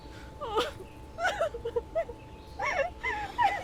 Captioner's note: Lisa sobbing